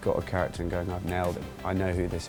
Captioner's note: snaps fingers